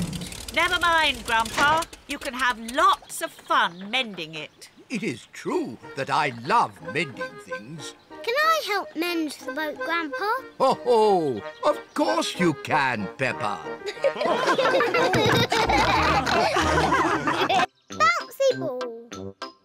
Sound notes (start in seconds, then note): 10.8 chuckles; 13.7 all laugh